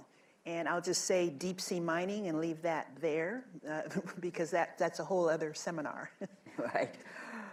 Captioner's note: laughter